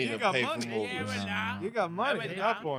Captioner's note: speaking In Foreign Language